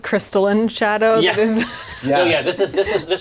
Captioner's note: laughs